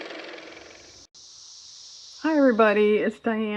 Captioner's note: car motor